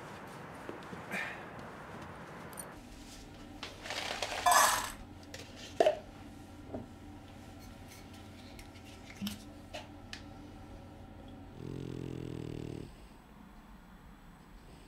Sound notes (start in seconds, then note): 11.4 dog snoring